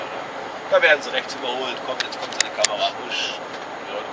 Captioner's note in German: wusch